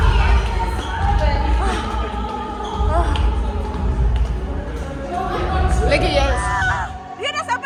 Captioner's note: panting